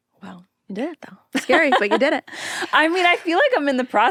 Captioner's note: laughs